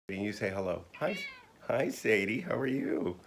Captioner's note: Sadie meows